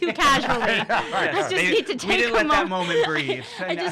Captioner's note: laughing